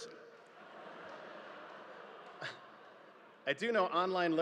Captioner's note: audience laughing